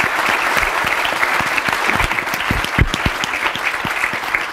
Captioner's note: applause